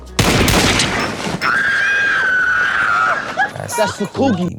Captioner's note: gunshots; screams